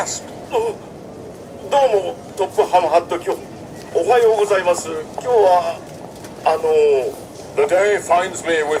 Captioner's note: gasps